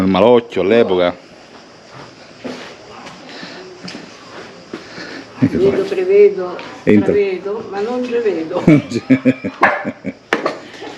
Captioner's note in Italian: Risate